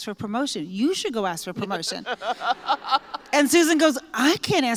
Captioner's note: laughter